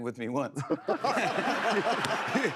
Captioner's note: laughter